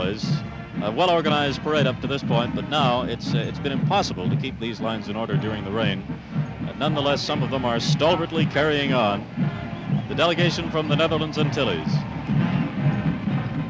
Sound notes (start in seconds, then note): 6.4 crowd cheers